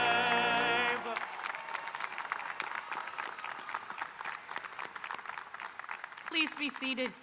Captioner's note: audience applauding and cheering